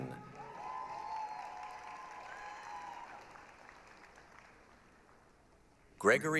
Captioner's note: applause, cheering